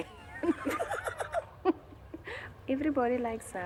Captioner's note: laughter